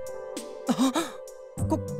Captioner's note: gasp